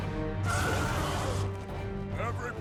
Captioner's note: screeching